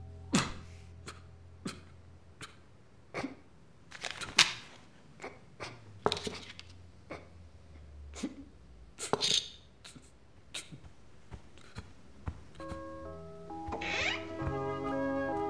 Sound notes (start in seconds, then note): 0.1 sobbing; 6.9 sobbing